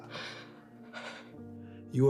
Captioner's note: Ava exhales